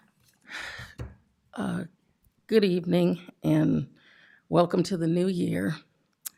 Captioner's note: sigh